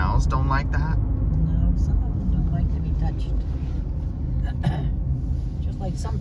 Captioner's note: clears throat